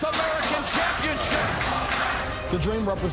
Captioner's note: crowd cheering